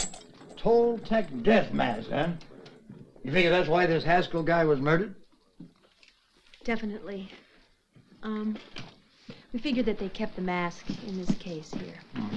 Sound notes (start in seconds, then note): none